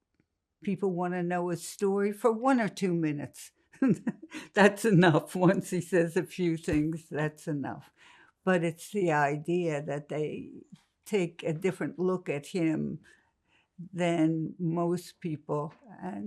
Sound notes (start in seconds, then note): 3.7 laughing